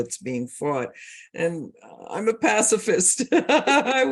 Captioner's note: both laugh